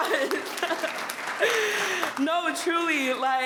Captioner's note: all applauding